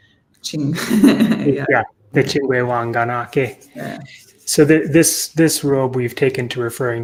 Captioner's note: Speaking Myaamian